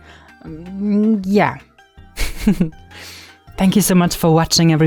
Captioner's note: laughs